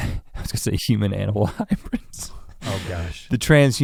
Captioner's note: chuckles